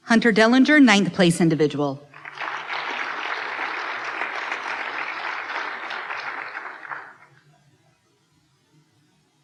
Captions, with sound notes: Hunter Dellinger, Ninth Place individual. (applause)